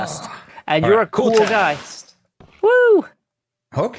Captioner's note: click